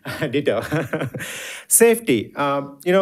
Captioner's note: laughing